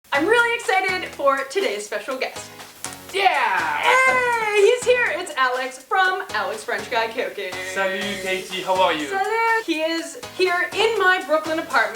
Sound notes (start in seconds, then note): 2.8 snap